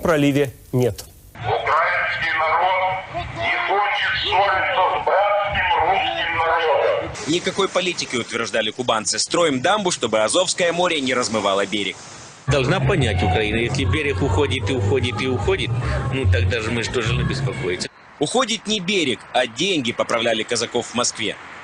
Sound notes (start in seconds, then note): 1.9 voice from the loudspeakers on the shore of Tuzla 2003